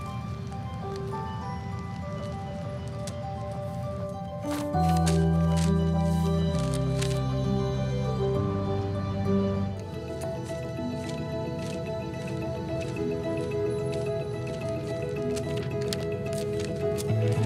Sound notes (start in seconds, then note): 0.2 paper rustling quietly; 4.4 paper crinkling and folding; 11.5 paper rustling